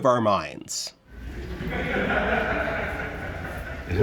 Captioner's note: distant laughter